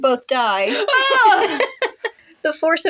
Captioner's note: laugh